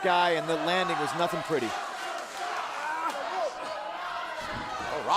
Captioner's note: crowd chatter